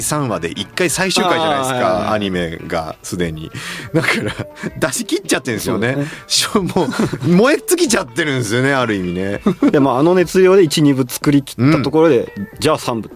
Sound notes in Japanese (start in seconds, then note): 3.6 笑い